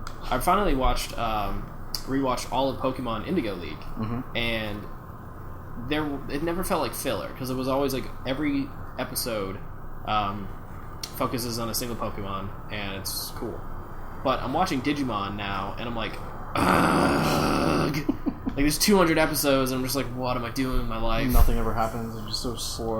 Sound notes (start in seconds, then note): 16.5 angry noises